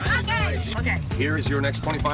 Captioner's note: laughs